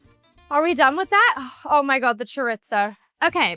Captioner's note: sighs